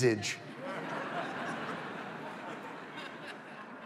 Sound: audience laughs

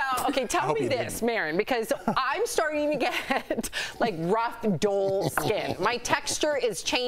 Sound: laughter

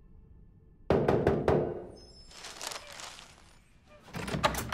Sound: rapid knocking

